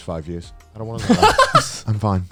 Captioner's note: laughs